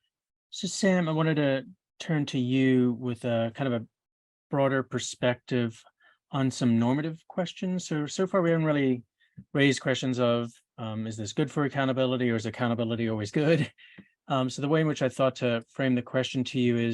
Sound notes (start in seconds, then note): 14.1 chuckles